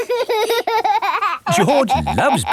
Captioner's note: laughing